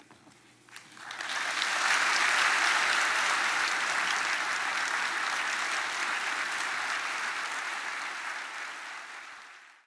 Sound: applause

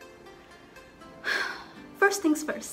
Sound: sigh

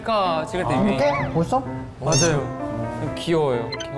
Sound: sound of being embarrassed

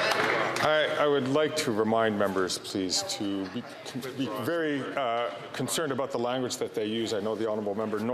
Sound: some Applause

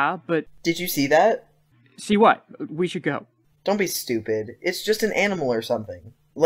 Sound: scared

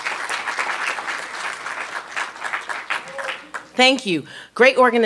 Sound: applause

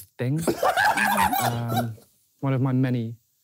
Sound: laughing

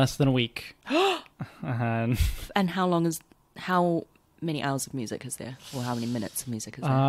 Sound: gasps

